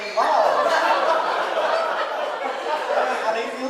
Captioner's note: audience laughing